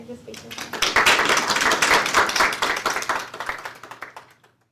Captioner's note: applause